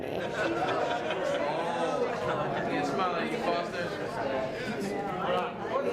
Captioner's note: crowd chatter and laughter